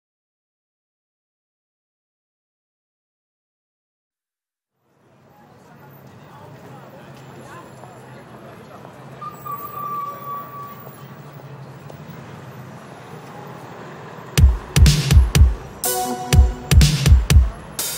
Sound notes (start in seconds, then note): 9.0 brakes squeaking; 9.0 people chattering; 14.4 lively music begins